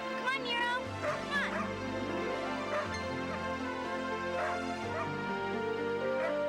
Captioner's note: Nero barking